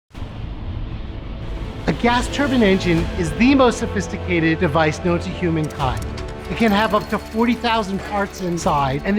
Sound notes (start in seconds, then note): 1.5 engine whirring; 1.6 stirring music